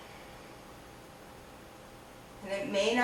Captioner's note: breathing sounds